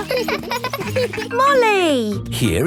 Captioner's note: laughing